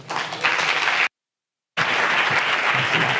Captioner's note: applause